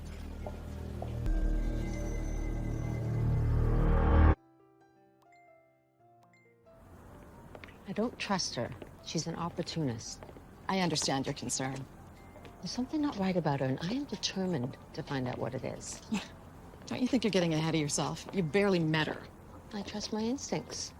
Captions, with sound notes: (sinister music) (birds chirping) - I don't trust her. She's an opportunistst. - I understand your concern. - There's something not right about her, and I am determined to find out what it is. (scoffs) - - Don't you think you're getting ahead of yourself? You barely met her. - I trust my instincts.